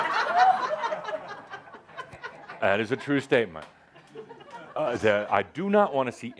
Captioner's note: laughter